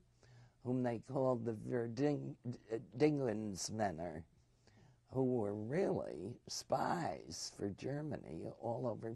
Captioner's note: german